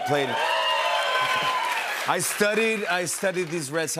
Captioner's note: cheers and applause